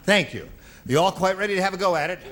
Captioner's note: laughing